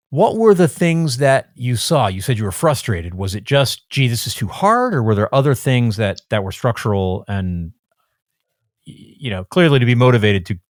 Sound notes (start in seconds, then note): none